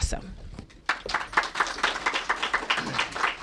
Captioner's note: applause